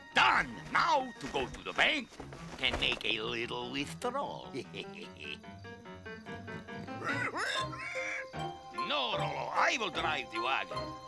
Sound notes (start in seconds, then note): 4.4 chuckles; 6.4 rolo grunting